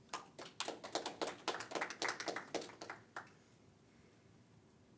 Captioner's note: crowd applauding